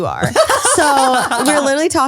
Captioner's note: laughs